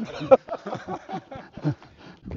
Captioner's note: laughs